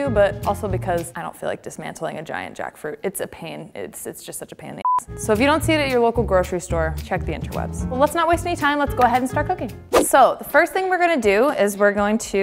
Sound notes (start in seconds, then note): 4.8 beep